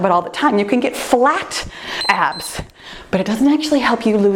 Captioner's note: timer beeps